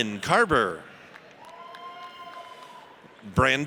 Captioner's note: audience cheers